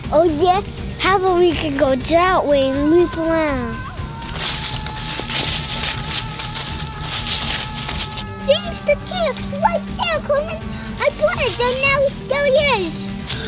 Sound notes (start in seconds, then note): 4.5 footsteps rustle